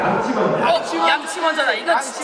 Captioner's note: all shout out brush first